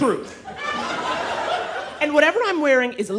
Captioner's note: audience laughing